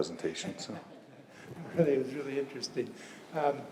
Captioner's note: laugh